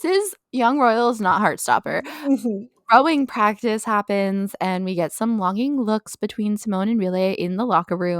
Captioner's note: mhmm